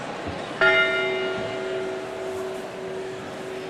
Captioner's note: bell tolls